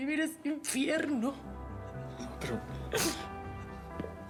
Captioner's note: sollozos